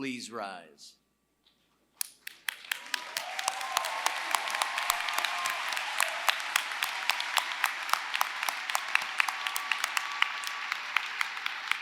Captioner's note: applause